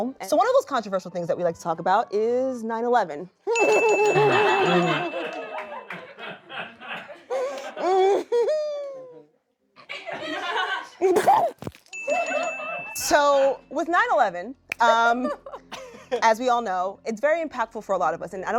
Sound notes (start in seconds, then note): 3.5 prolonged laughter